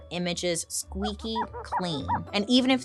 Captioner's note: cloth squeaking